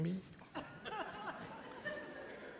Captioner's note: laughter from the audience